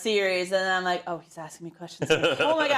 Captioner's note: laugh